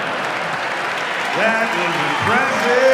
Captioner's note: audience laughs; audience applauds and cheers